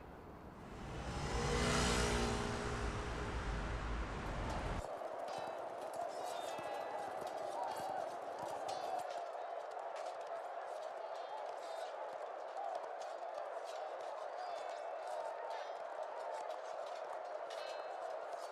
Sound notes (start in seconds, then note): 0.0 faint traffic noise; 7.7 indistinct crowd noise